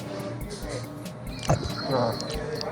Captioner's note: wheezy laughter; gulping bite of sandwich